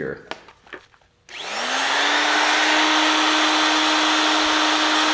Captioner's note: power tools buzz